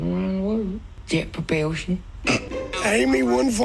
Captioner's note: chuckles